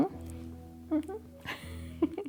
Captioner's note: laughs